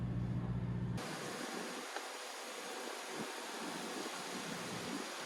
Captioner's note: water splashing